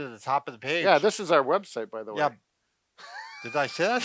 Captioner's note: laughing